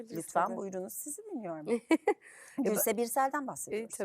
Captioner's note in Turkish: kahkaha